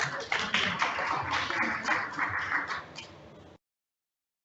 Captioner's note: audience cheers; audience applauds